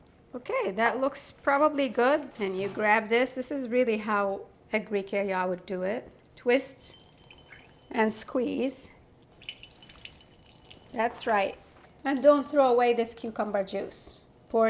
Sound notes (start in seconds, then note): 9.0 juice pattering